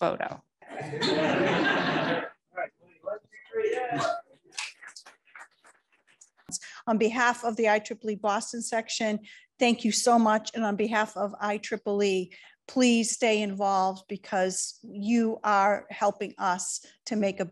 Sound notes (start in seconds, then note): 0.7 laughter; 3.8 applause